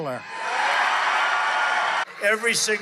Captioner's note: crowd cheering